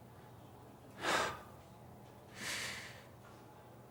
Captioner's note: sighs